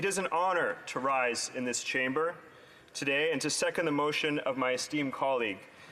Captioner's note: speaking native language